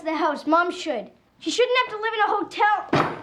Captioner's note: banging